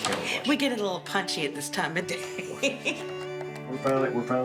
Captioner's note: laughs; gentle atmospheric music